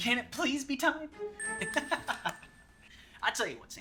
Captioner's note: Colton laughs